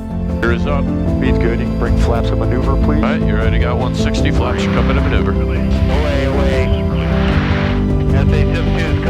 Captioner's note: radio Communication